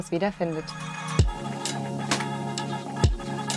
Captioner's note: spherical sounds